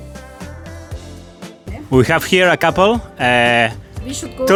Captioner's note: in English